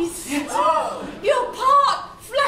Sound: audience gasps

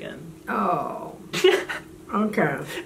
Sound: laughing

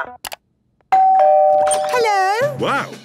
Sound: doorbell ringing

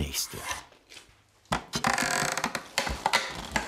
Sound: creaking

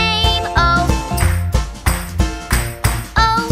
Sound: clap

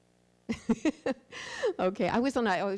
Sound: laughs

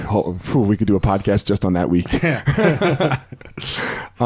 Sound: laughs

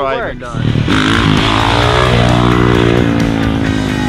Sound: engine revving

